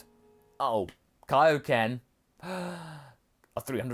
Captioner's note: gasp